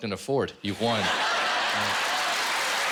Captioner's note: laughter and applause